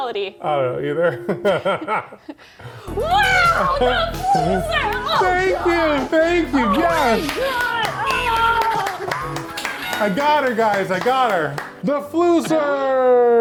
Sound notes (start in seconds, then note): 1.0 laugh; 7.5 groaning; 9.7 clapping hands